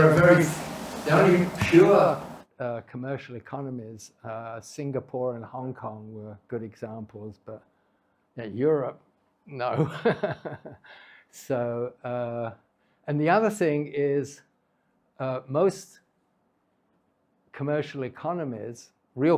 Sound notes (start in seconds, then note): 10.3 laughs